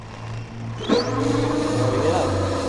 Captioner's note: engine builds power; engine roaring